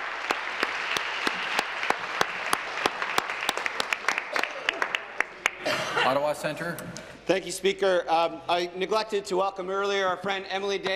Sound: applause

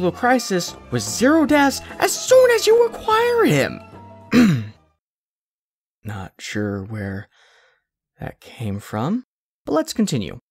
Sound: ahem

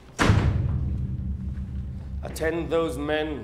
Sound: door slams

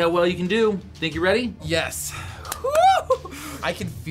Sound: whoops excitedly

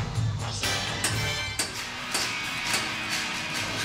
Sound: tap! Tap! Tap! Tap!

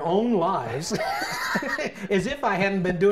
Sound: laughs

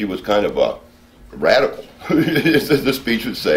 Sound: laughing

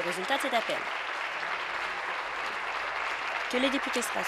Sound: applause

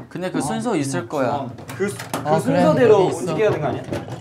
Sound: door opened

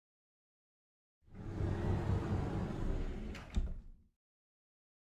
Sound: sound of sliding door

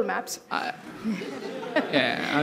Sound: laughter

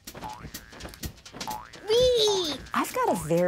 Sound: boinging

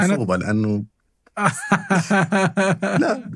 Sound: laughter

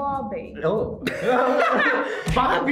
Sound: laughs

